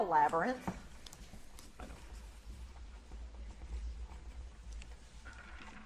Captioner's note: Edmonson team whispers